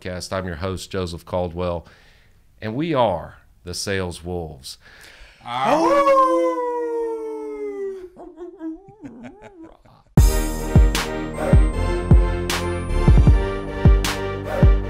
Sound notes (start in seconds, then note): 5.5 howl; 10.2 outro music